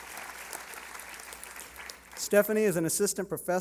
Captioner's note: applause